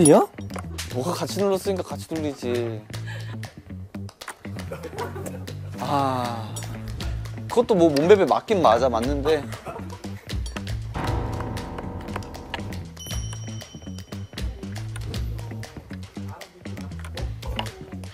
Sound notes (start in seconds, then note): 5.6 frustrated; 11.0 angry backspace